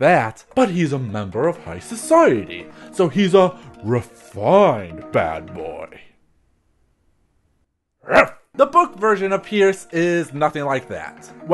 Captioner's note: ruff